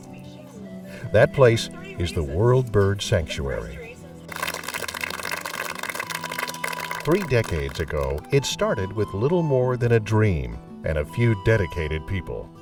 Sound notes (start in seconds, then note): 4.3 applause